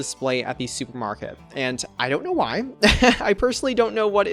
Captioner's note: laughs